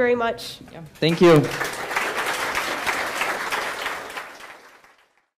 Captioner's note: applause